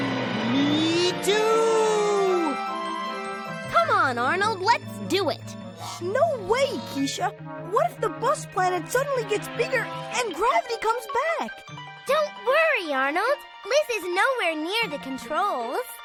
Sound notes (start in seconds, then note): none